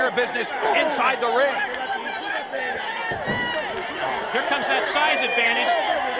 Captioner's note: applause